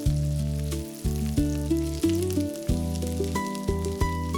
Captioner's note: sizzling